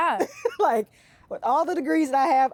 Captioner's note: laughs